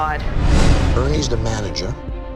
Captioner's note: beep; air whooshing